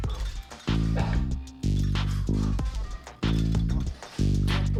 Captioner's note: grunting